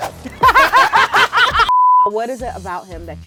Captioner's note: laugh